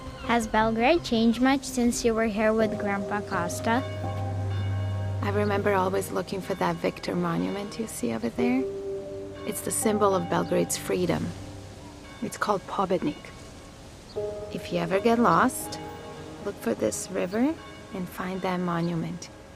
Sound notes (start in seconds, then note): 0.0 dramatic orchestral music continues; 4.2 church bells tolling